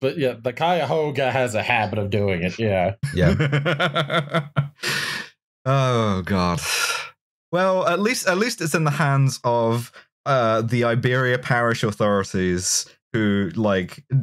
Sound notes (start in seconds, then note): 3.0 laughs; 3.0 laughter